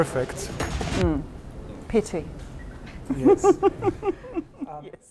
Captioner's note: laughs